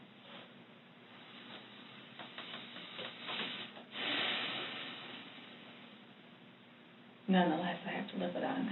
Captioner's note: sighs deeply